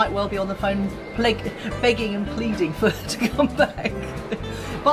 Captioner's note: laughs